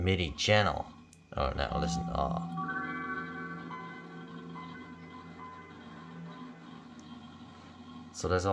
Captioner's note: Windows start up Sound